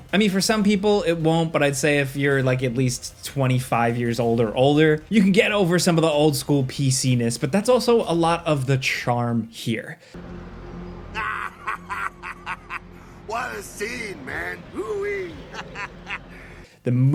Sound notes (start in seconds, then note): 11.1 man laughing